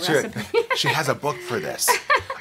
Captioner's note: laughs